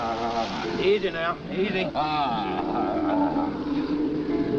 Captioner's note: Joe wailing